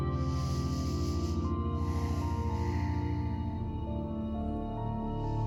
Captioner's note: inhales; exhales; calm music